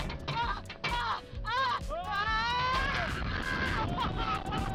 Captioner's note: screaming